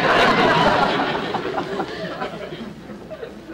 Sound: audience Laughing

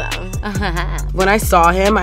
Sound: giggling

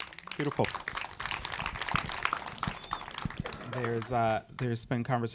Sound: audience applauding

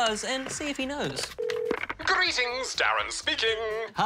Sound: line rings

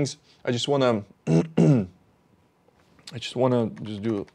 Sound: clears throat

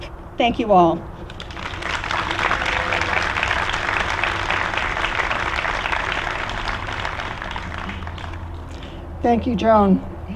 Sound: applause

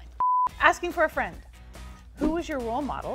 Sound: beeping noise

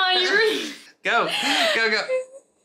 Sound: laughing

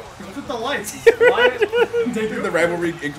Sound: laugh

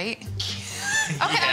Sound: laughing

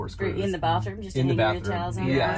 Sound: none

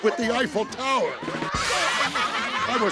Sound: laughing

